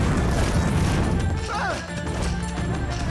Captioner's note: moaning